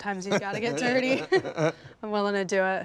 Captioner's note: laughter